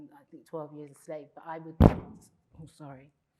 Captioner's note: object thumps